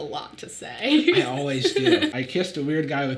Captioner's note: Sadie laughing